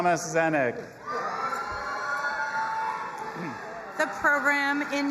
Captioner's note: audience applauding and cheering